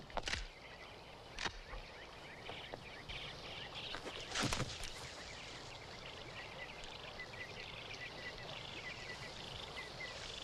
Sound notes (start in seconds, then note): 0.2 gun clacks; 3.5 leaves rustle; 4.0 foot thumps